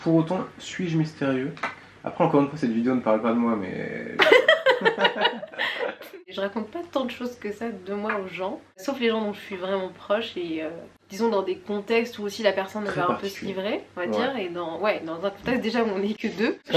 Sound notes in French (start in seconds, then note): 4.2 rires